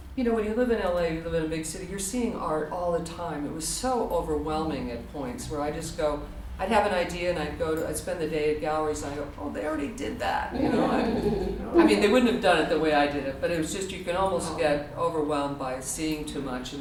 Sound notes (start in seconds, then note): 10.6 audience laughter